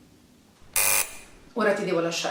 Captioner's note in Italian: citofono che suona